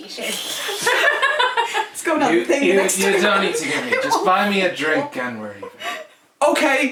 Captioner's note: laughter